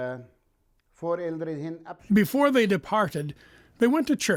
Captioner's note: speaking German